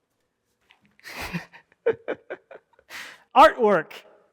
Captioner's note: laughs